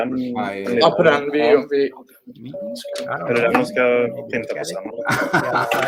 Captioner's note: speaking in foreign language